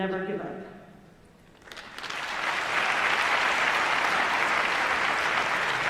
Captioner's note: applause